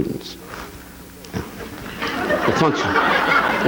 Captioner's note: audience laughing